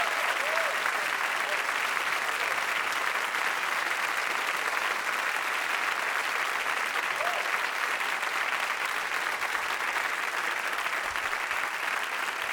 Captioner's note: audience applauding